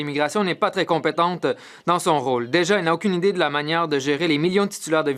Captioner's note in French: voix de l'interprète